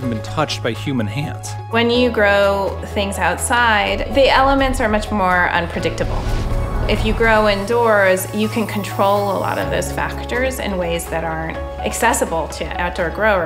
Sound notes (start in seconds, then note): 6.0 wind whooshes